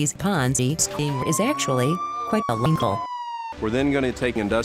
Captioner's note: police siren in background